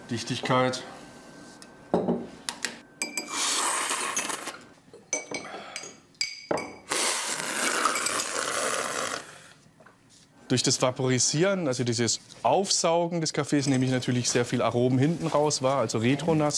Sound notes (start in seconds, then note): 3.2 slurp; 6.9 long slurp